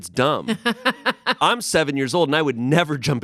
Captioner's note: laughs